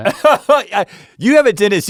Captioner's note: Rhett guffaws